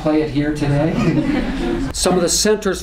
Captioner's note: laughter